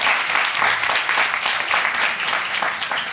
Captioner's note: audience applauding